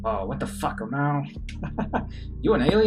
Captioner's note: Musky chuckles